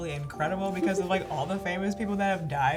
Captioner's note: giggles